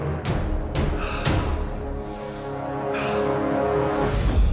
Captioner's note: dramatic music; exhaling